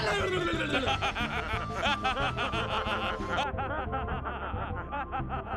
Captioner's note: martian laughter